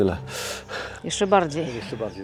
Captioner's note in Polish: wciągnięcie powietrza